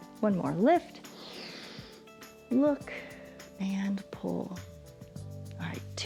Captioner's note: inhales